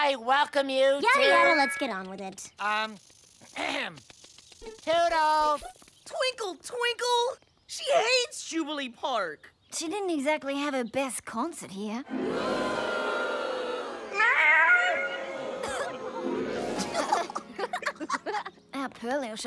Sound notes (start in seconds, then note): 12.0 crowd booing; 14.2 meowing; 16.6 giggling